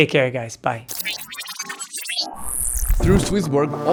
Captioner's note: metallic beeping